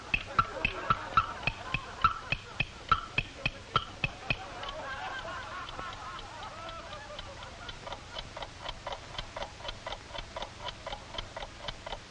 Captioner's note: growing laughter in the audience. Clock ticks